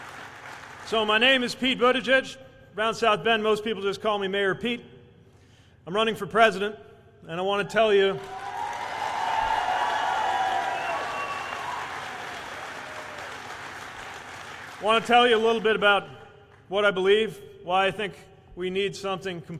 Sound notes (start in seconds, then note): 0.0 applause; 10.7 cheers